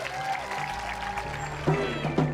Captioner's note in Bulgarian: Тълпата аплодира, аплодира